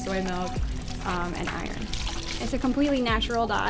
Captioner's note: water wringing out